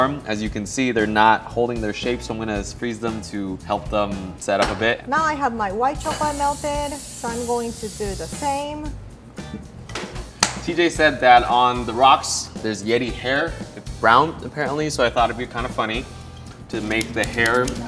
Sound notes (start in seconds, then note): 6.0 spraying; 10.4 claps; 16.7 peeler clicks